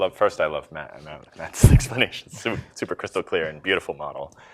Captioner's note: laughing